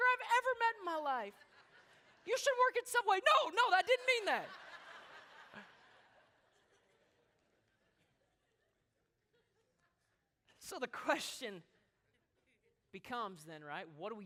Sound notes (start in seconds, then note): 4.3 laughter